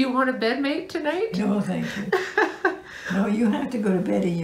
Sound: laughter

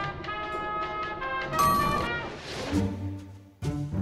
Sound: elevator rings

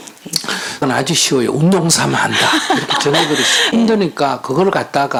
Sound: questioner Laughter

